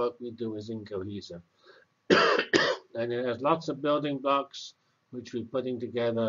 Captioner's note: cough